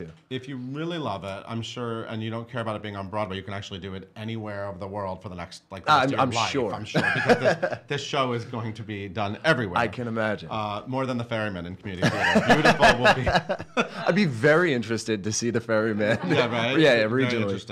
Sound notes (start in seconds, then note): 12.0 laughs